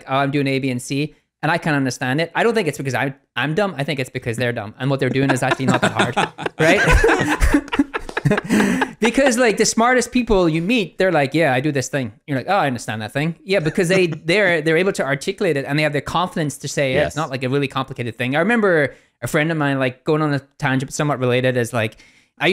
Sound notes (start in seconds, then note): 5.0 laughing